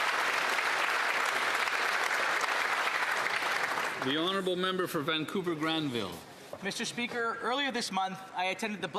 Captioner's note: applause